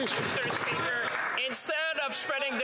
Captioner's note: some Applause